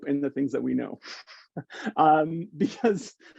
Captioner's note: chuckling